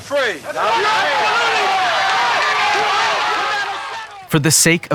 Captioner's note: crowd chanting